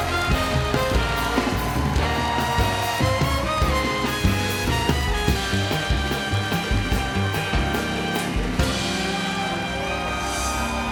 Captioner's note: applause